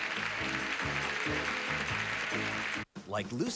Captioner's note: audience applauding